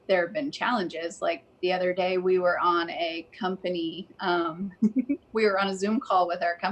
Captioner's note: laughs